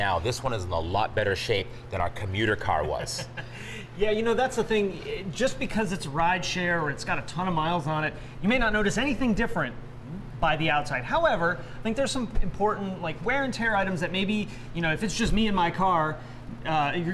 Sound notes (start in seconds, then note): 2.8 laughs